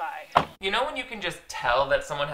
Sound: car door closes

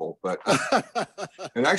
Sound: laughs

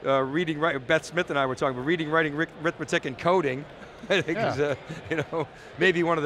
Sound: laughs

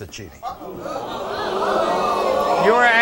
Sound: audience groaning

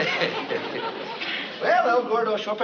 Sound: laughing

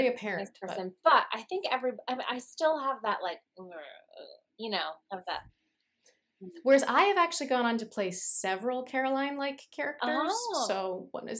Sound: babbles

